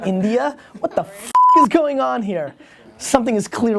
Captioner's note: beep